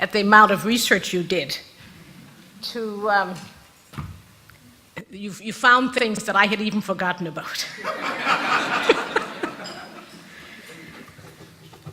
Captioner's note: rires de l'auditoire